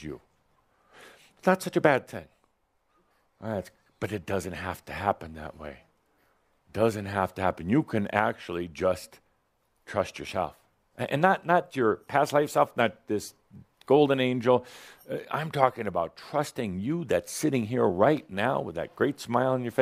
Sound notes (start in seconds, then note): none